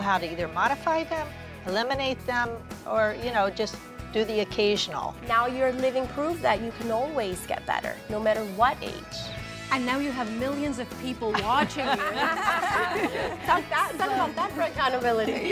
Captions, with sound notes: SO, I KNOW HOW TO EITHER MODIFY THEM, ELIMINATE THEM, OR, YOU KNOW, JUST DO THE OCCASIONAL. NOW, YOU'RE LIVING PROOF THAT YOU CAN ALWAYS GET BETTER. NO MATTER WHAT AGE. AND NOW, YOU HAVE MILLIONS OF PEOPLE WATCHING YOU. (LAUGHTER). IT'S NOT THAT GOOD. I NEVER HAD THAT KIND OF ACCOUNTABILITY.